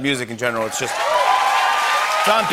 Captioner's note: cheers and applause